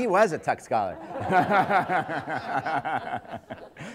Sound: laughter

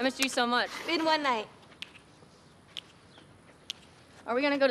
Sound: Molly snapping fingers

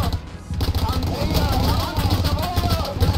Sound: Italian

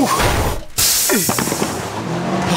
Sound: tire hissing; tires screeching

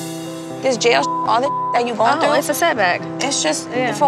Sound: beep

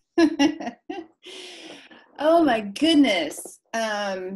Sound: laughing

